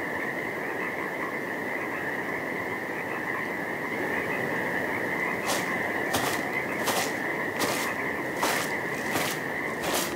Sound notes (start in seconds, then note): 5.3 undergrowth crunching